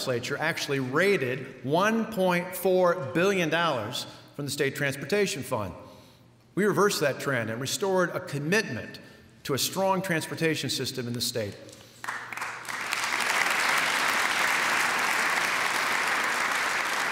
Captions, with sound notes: actually raided $1.4 billion from the state transportation fund. We reversed that trend and restored a commitment to a strong transportation system in the state. [applause]